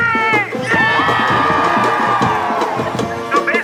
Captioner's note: cheers